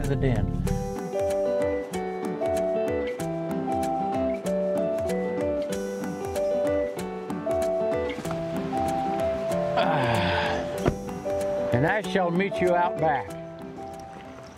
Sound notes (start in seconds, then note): 8.7 gentle upbeat music; 9.8 grunts